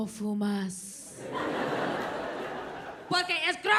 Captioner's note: audience laughs